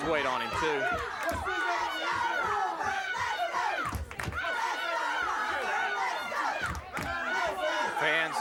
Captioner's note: applause